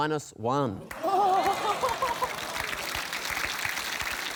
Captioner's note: groaning, applause